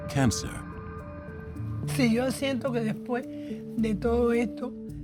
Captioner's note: speaking Spanish